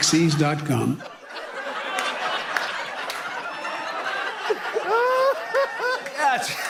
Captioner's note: laughter and applause